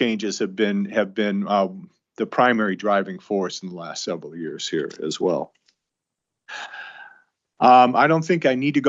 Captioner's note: sighs and gasps